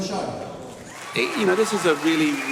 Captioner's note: cheers and applause